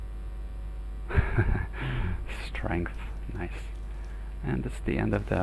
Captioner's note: chuckles